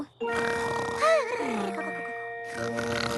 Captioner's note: both snoring